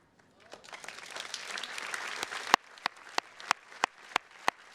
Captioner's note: attendees clapping